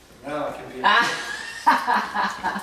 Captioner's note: laughing